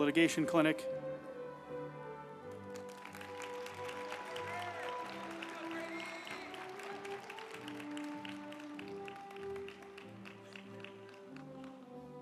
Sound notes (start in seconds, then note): 2.4 group applauding; 3.1 uplifting music